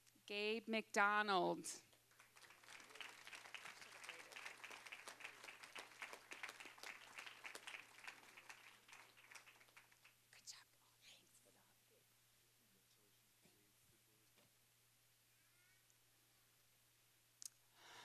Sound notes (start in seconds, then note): 2.0 applause